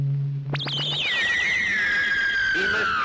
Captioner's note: discus screeching loudly